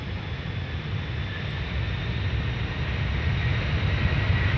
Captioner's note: airplane soaring